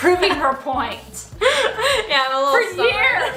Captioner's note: laughs